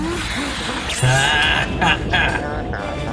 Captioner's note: Gracie mocks the Evil Snowman’s Laughter